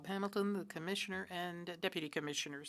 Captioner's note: speaking French